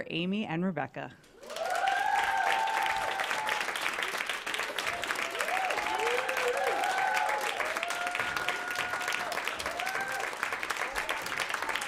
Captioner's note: applause